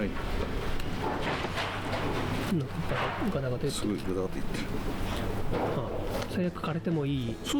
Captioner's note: you can hear the construction noise